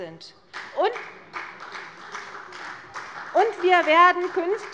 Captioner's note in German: Beifall bei der CDU und dem BÜNDNIS 90/DIE GRÜNEN